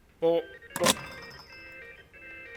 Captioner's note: receiver thuds